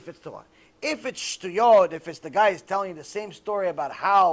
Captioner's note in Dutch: hebreeuws